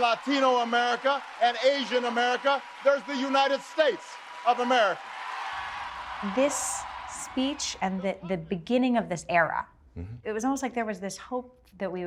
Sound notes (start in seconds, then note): 5.8 audience cheers and applauds